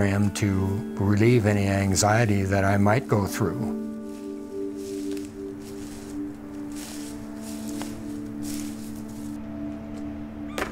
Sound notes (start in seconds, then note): 4.2 leaves crunching